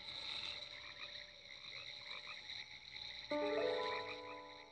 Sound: crickets chirping

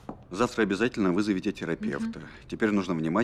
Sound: sighs

